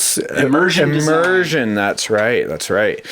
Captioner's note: voiceover